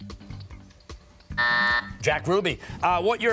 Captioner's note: buzzer sounding